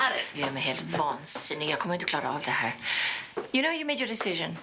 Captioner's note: Inger speaking Swedish